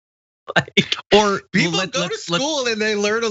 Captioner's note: laugh